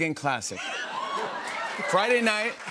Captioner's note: laughter, cheers, applause